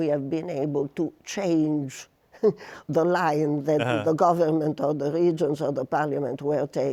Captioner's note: chuckles